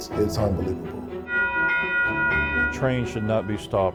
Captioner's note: bell ringing